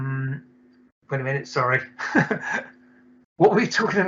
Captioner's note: laughs